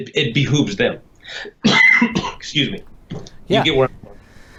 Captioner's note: coughs